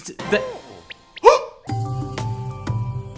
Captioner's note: gasp